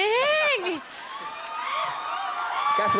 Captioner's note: audience cheering